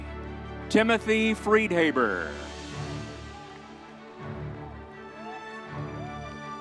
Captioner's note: crowd cheering